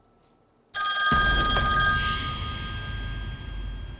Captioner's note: phone ringing